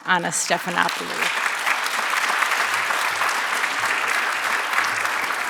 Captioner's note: audience applauding